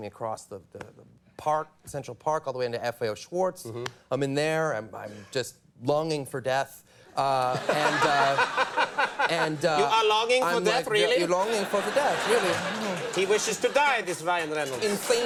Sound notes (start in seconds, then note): 8.4 audience laughs